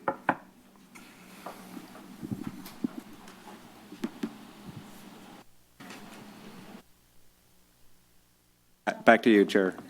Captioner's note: silence